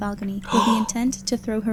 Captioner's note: gasps